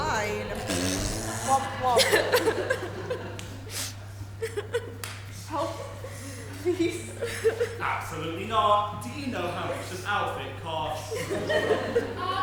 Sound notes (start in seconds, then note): 0.5 loud nose blowing, ‘womp womp’ from audience